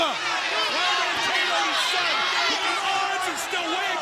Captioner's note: audience chants